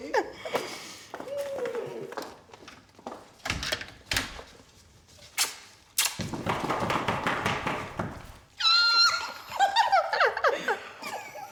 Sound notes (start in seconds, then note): 0.3 chuckling; 4.0 closing door; 5.3 smooching sounds; 6.2 shoe tapping sounds; 8.6 screaming and laughing